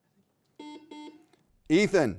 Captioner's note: beep